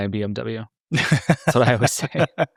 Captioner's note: laughing